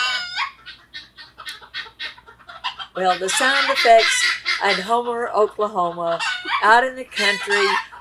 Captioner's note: more guinea hens clucking